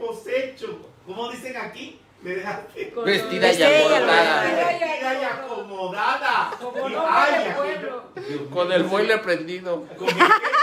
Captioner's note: laughing